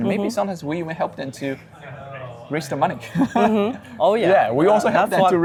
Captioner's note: laughing